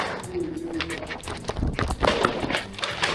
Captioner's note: loud hum; footsteps; clattering/clattering